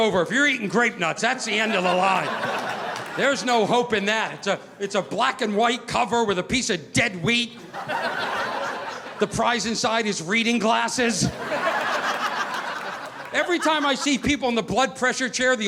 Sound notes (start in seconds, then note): 2.7 audience laughing; 11.1 audience laughing